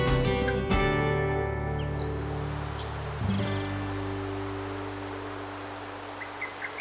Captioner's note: birds chirping